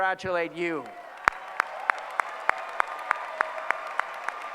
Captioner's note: applause